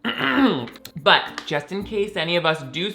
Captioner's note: clearing throat